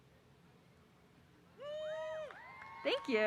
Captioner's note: audience applause